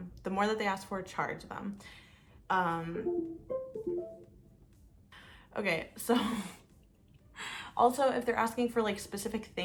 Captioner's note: windows computer noise